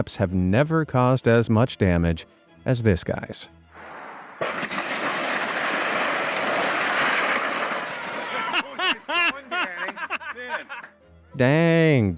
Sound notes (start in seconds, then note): 3.8 building crashing; 8.2 bystander laughing